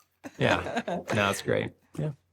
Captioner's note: both laughing